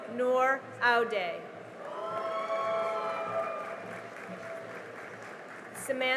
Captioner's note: cheering and applause